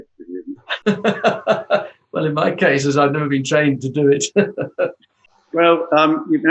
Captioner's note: laughs